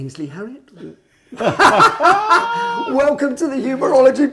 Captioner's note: laughing